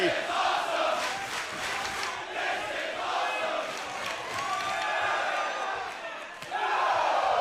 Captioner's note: crowd cheering